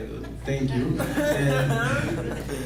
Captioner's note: laughing